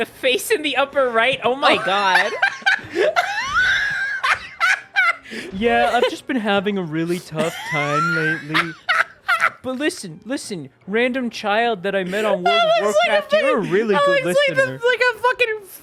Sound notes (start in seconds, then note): 1.7 laughing; 5.8 dude voice